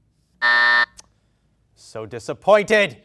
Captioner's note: beep